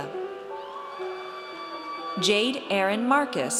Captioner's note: audience cheers